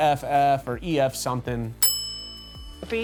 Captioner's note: bell dings